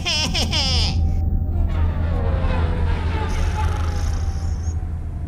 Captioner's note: Narb laughing happily; ship descending rapidly; Philo snoring